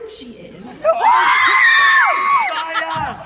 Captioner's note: audience cheers